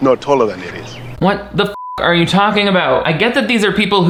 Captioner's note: beep